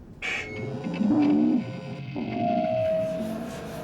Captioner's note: feedback